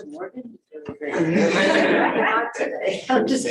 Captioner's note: laughter